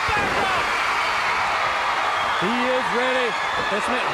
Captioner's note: crowd cheering